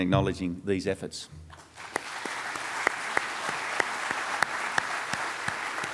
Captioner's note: and audience clapping